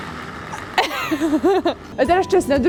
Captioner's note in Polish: śmiech